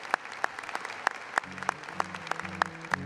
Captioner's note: applause